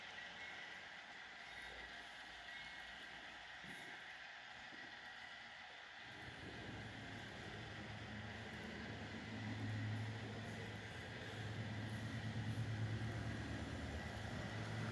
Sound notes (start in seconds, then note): 6.3 A low humming starts here